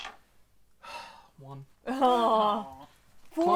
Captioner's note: sigh